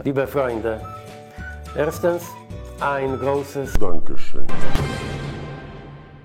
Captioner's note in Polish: Tusk mówi po niemiecku